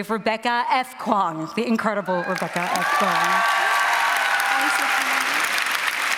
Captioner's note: cheering and applause